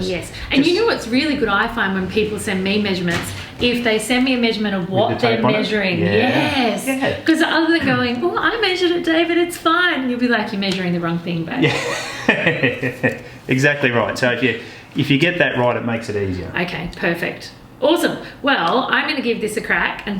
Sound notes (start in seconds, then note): 11.6 laughs